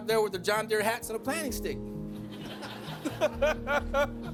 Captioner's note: group laughing